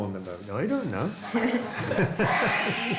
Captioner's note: laughs